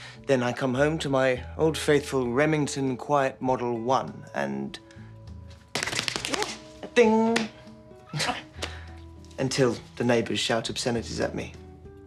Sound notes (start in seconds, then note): 5.0 imitates keys clacking; 8.1 laughs